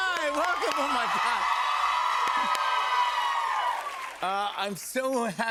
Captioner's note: cheers and applause